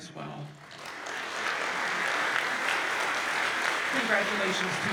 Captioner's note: audience applauds